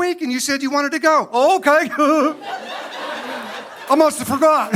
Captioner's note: fake laugh